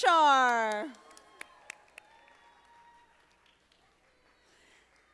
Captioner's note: audience applauding